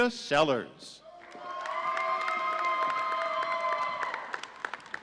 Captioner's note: audience cheering